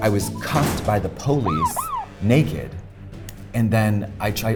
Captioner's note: sirens wail